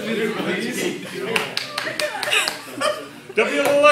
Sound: clap clap clap clep clap!

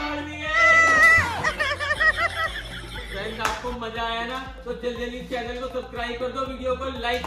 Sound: laughter

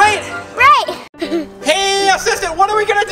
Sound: chuckles

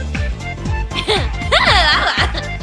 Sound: happy demon noises

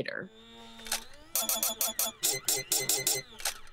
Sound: robot whirring

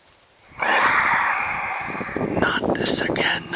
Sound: coyotes snarling

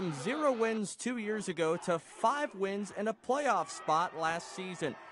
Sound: cheering

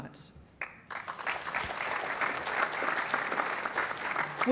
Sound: applause

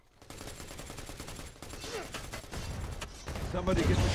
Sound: guns firing

